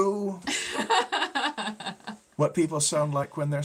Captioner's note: laughing